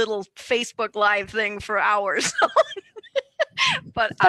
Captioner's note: laughs